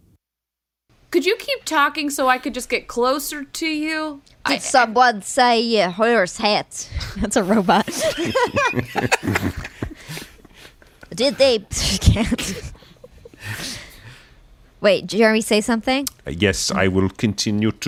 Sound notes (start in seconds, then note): 5.3 robot voice; 8.1 laughing, robot voice; 15.3 Herzog voice